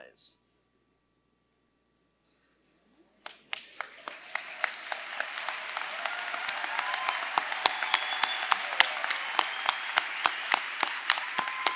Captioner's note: applause